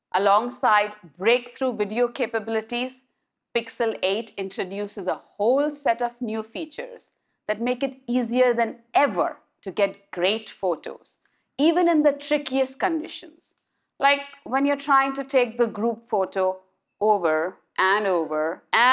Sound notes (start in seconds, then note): none